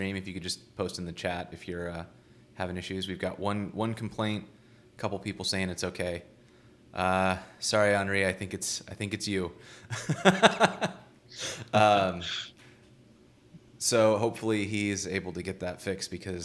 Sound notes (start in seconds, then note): 9.9 laughing